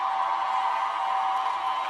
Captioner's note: cheers and applause